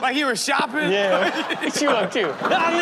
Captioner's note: Steelo laughs